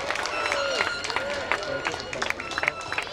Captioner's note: applause